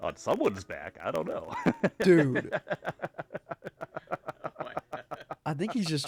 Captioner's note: laughing